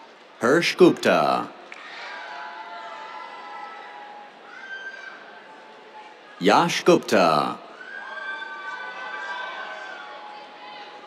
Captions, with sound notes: Harsh Gupta. [CHEERS] Yash Gupta. [CHEERS]